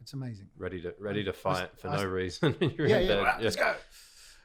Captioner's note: chuckling